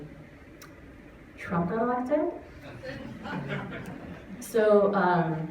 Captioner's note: laughter